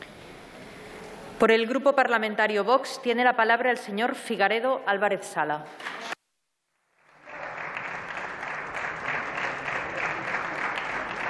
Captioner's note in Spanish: Aplausos